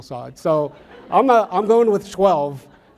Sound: audience laughs

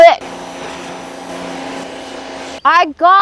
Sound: power washer whirs

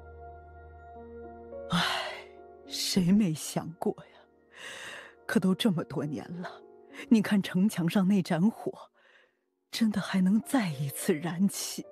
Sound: sigh

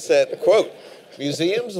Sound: laughter

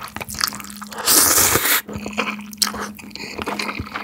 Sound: slurp one more time

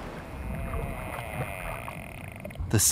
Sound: squeaks

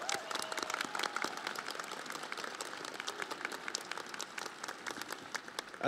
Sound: audience applauding

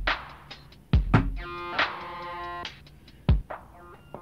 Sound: thump

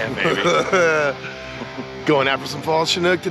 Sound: chuckling

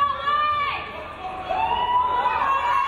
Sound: crowd

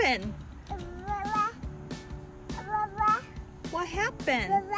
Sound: babbling

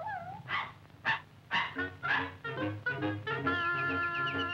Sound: Pudgy barking; bird chirping

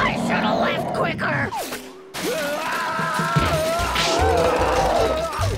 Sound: screaming, roaring

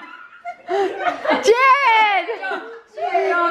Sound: voiceover

